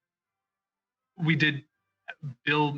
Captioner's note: speaking French